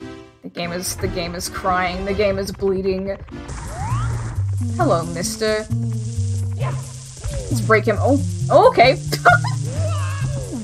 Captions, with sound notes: The game- is the game is crying. The game is bleeding. Hello mister. Let's break him- oh? Oh okay! [laughs]